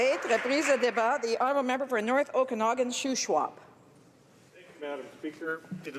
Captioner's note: applause